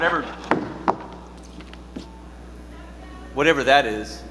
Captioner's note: boots thudding